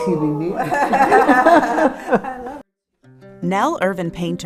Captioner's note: laughter